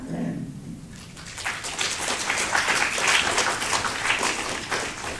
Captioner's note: applause